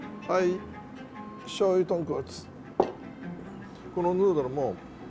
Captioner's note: speaking in Japanese